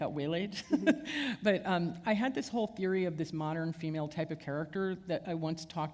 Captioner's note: chuckle